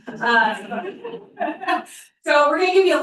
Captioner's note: laughter